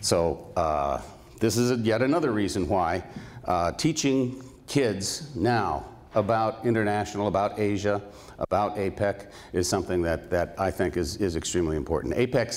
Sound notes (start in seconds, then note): none